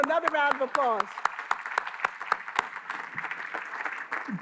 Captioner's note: applause